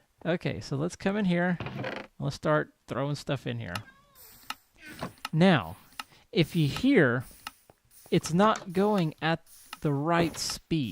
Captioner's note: laughs; clicking resumes